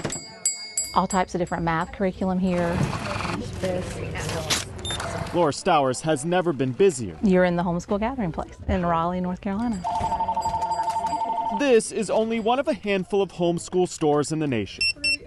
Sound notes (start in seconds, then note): 0.0 door bell tinkling; 9.7 phone ringing; 14.8 barcode scanner beeping